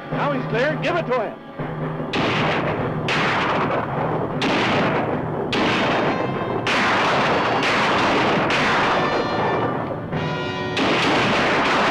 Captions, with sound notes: - Now he's clear give it to him. (guns firing)